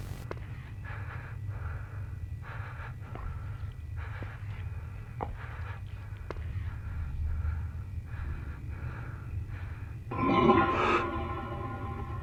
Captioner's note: buzzer sounds